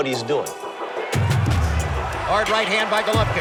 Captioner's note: crowd cheering